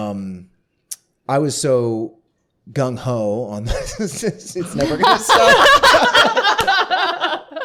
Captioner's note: laughter